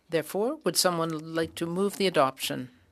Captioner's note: speaking French